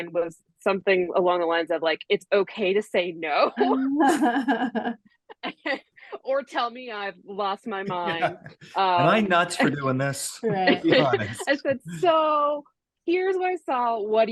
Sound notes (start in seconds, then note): 3.5 laughs